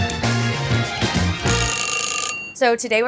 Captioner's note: timer dinging